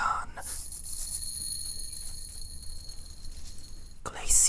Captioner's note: gentle tapping on glass